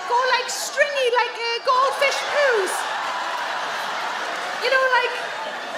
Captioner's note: audience laugh